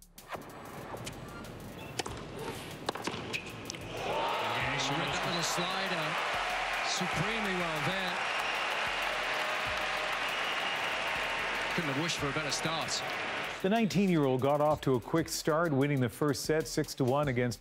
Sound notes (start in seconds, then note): 13.2 cheers and applause